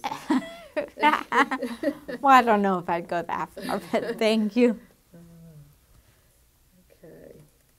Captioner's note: laughing